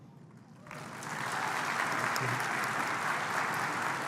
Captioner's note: applause